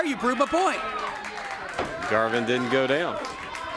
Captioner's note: crowd chatter